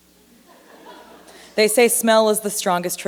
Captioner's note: laughter